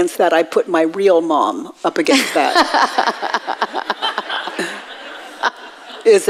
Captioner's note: audience laughs